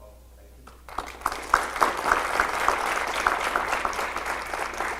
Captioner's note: audience applause